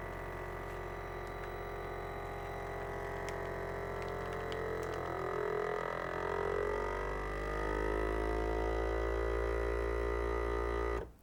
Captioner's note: whirring of a vacuum sealer